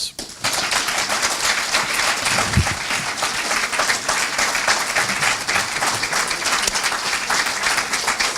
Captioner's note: applause